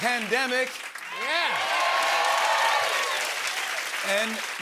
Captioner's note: cheers and applause